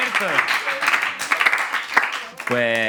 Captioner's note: applause